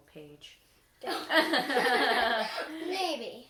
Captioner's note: laughter